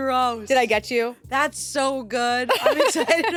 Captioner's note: laughs